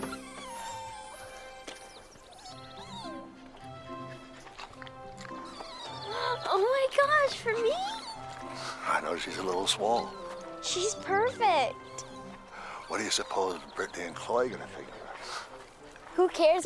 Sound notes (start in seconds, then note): 2.7 playful music; 2.7 puppy whimpering